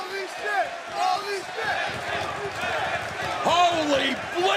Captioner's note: crowd cheering